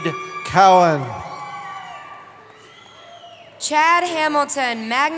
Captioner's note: cheering